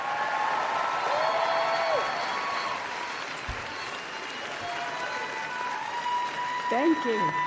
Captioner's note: applause